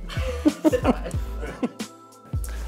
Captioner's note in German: Lachen